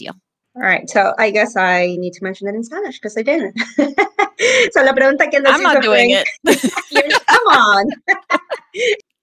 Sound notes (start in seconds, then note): 5.0 speaking in Spanish; 6.1 laughing